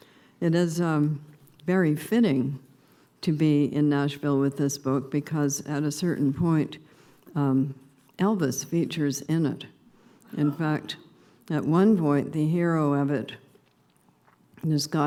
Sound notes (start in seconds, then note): 8.7 subdued laughter